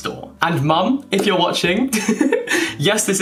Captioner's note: laughing